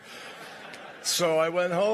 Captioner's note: laughter